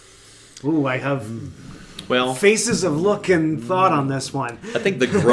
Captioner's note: laughs